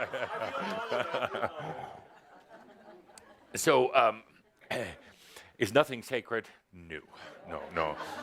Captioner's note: laughs